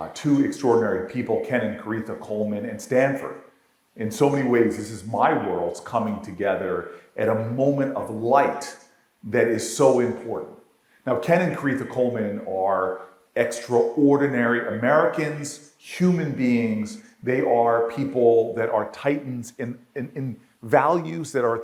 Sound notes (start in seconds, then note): none